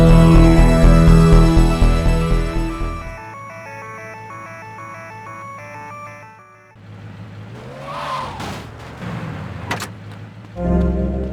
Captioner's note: car horn